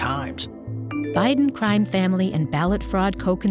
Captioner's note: phone chimes